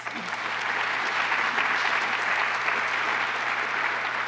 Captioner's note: applause